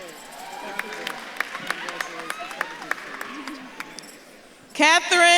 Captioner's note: audience claps and cheers